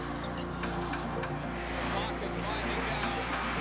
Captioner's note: crowd counting down